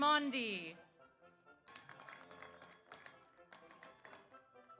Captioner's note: audience applauds